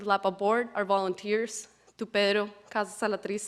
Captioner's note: speaking Spanish